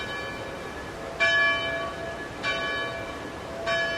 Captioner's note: bell tolls